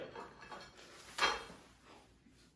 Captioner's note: ceramic rustling